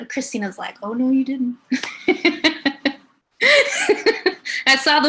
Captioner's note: laughs